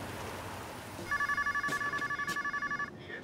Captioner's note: telephone rings